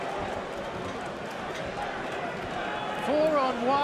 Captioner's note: crowd chatter